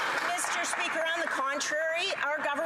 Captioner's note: some Applause